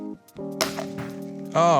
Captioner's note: subdued snap